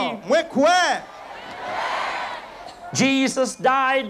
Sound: crowd repeats

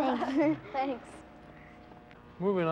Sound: laughter

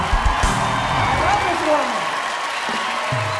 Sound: cheers and applause

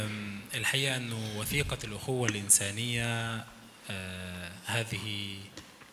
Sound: speaks in foreign language

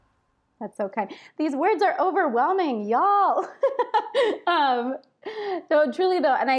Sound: laughs

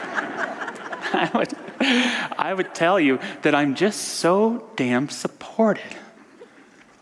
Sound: audience laughter

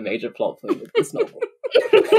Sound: laughing

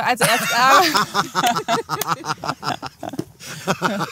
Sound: laughter

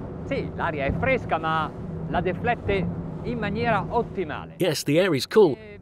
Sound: speaking in Italian

